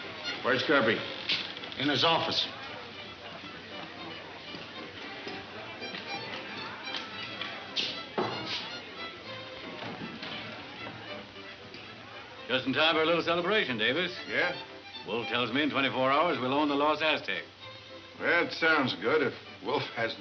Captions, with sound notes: - In his office. (playful music) (knocks) - Just in time for a little celebration, Davis. - Yeah? - Wolf tells me in 24 hours, we'll own the Lost Aztec. - That sounds good if Wolf hasn't slipped up some place.